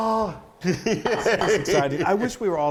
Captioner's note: giggling